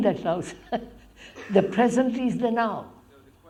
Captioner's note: laughs